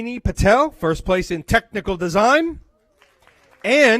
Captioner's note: applause